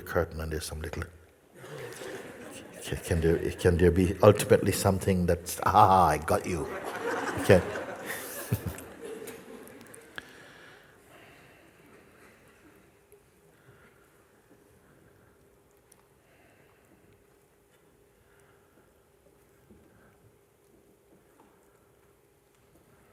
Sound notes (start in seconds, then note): 6.4 laughter; 10.8 long silence